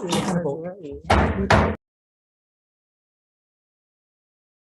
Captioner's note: gavel hammering sound